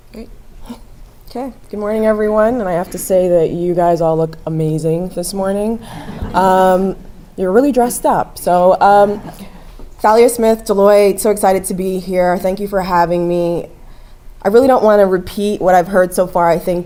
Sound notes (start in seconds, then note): 6.1 laugh